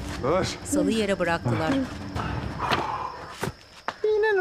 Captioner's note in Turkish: Nefes sesleri